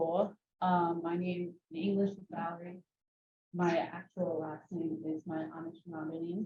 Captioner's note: speaking Anishinaabe